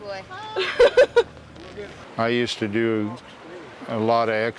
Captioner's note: laughing